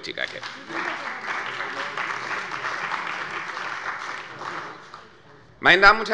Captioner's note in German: Beifall bei der CDU und dem BÜNDNIS 90/DIE GRÜNEN